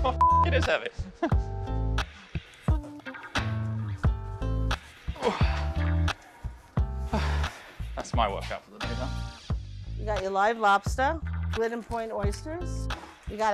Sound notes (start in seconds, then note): 5.1 grunting